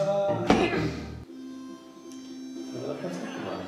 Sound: laughs; hand thuds

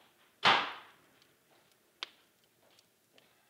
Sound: door slamming; footsteps approaching

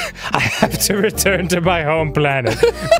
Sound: laughing

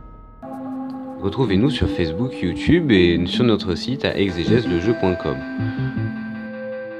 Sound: only french

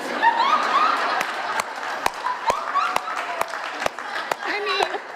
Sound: audience laughs, claps

